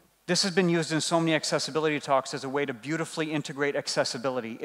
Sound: none

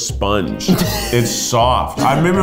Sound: laughing

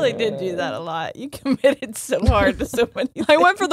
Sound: laughs

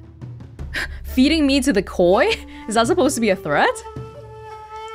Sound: exhales

